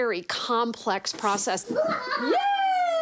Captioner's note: laughs